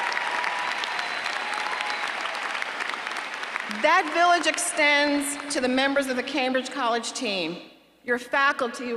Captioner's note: applause